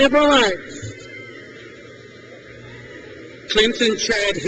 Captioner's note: crowd cheers